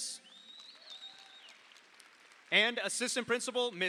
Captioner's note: audience applauds